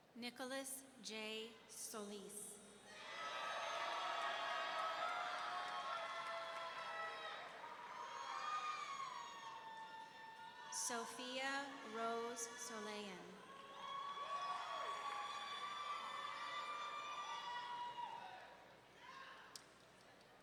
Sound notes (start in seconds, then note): 3.1 audience cheering; 13.2 audience cheering